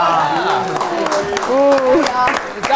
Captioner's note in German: Jubel, Applaus